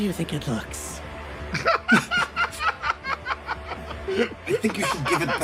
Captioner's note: laugh